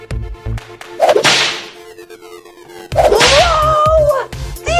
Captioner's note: door whips